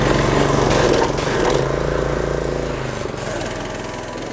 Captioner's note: loud engine sputtering